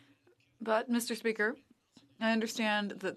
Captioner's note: speaking French